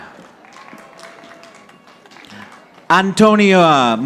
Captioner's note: audience applauding